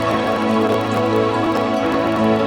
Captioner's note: bell